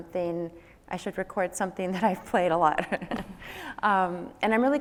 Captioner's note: laughs